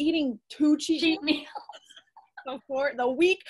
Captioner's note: laughs